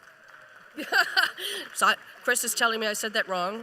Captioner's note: applause